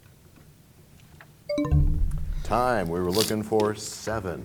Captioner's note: bell chimes, time expires